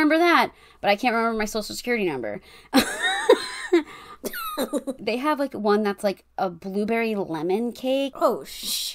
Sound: laughs

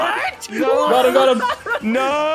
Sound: laughs

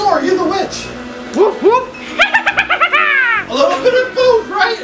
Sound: witch laughs

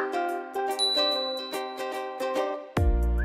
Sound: ding

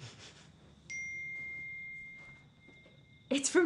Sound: phone pings

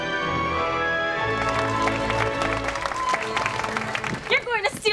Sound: clapping

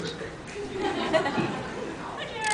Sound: scattered laughs

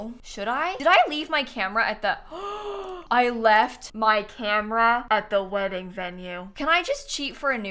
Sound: gasps

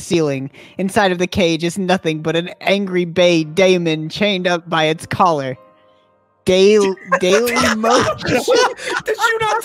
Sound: all crack up

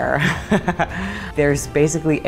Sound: laughs

